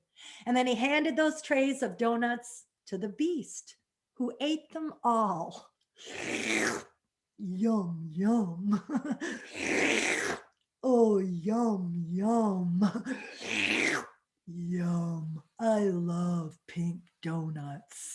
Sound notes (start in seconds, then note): 6.0 slurps; 8.6 laughs; 9.3 slurps; 13.1 slurps